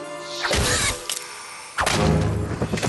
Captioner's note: splat